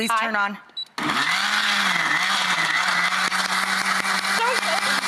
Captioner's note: audience applauds